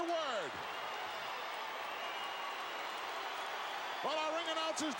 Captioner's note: applause